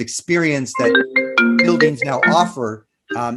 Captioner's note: phone ringing